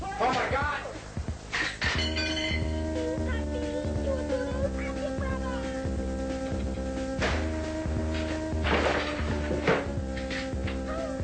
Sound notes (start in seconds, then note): 7.2 gunshot; 8.0 thud